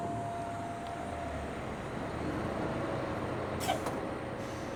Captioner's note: engine humming